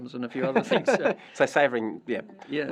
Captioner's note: laugh